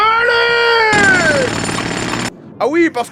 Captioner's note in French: bababababam